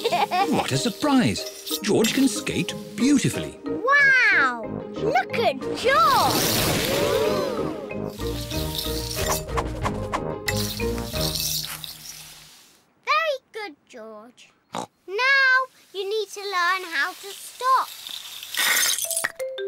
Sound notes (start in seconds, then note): 0.0 giggles; 14.3 snorts